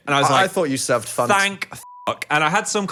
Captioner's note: beep